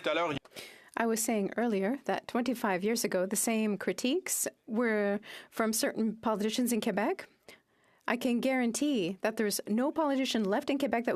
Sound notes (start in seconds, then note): 2.8 speaking French